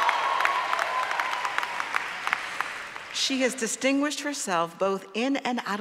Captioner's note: applause